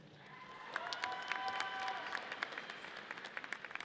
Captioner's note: audience cheers